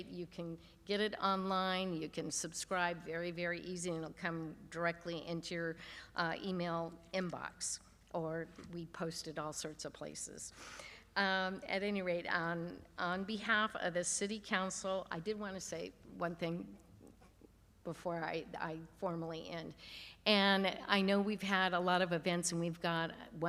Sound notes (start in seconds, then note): none